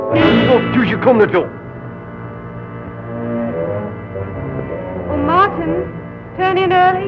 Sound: speaking russian

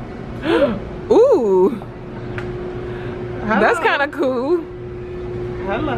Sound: gasps

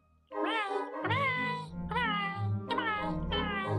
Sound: critters mumbling; closing theme music

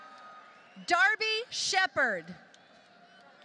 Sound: applause

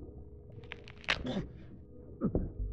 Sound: monster bites

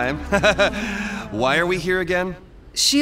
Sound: chuckles

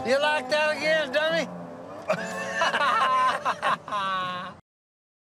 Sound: laughter

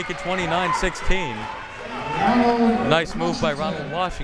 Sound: crowd members shouting

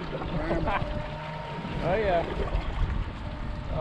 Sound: chuckling

